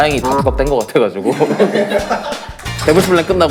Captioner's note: haha